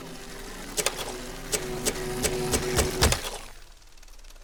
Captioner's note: projector whirs; click